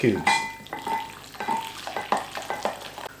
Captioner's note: stirring